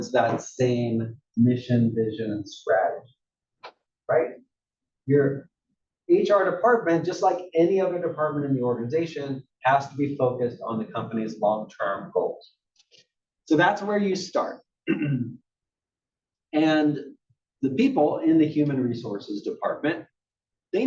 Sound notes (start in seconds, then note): 14.8 cough